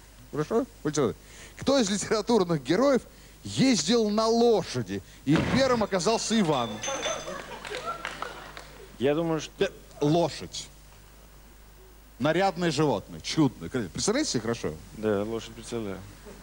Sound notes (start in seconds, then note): 4.3 clap; 6.2 sound of breaking glass; 6.8 laughter